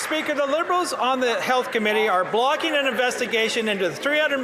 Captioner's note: some Applause